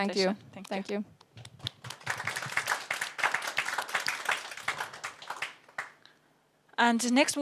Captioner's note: audience applauds